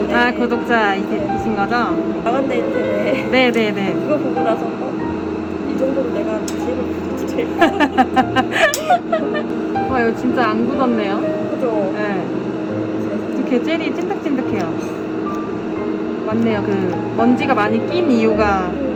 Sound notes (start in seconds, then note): 7.6 A genuine laughter